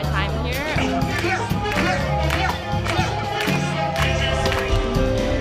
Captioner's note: crowd clapping to a live performer; crowd at a concert